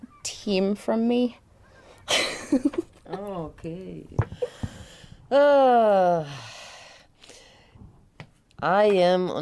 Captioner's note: laughs; sighs